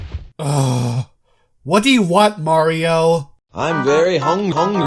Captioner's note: groans